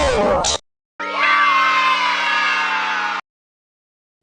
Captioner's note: fnaf kids cheering